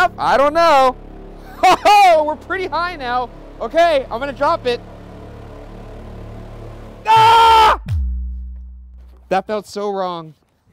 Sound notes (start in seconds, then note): 4.9 screaming; 4.9 suspenseful music